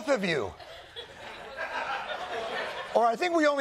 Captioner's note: laughter